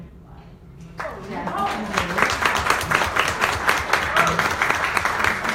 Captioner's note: audience applauds